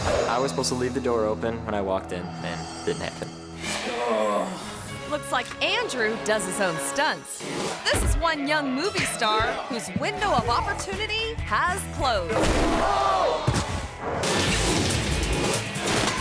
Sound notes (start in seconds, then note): 3.8 grunts